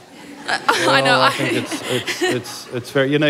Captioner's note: laughter